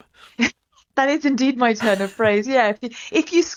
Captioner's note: laughs